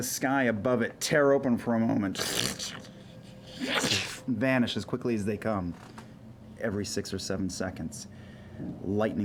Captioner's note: ripping